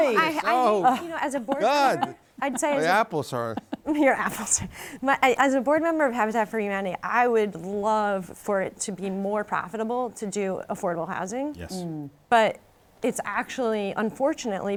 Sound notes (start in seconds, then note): 0.1 laughs; 3.5 chuckles